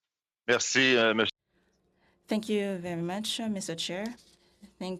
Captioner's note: speaking French